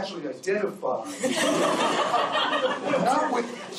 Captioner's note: laughter